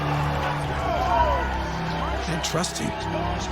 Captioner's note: crowds cheering